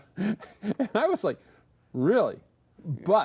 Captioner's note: both chuckle